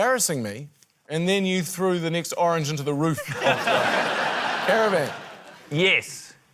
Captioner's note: laughter